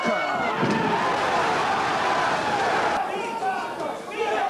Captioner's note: crowd cheers